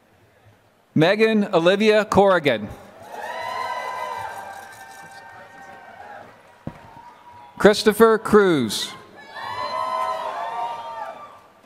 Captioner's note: applause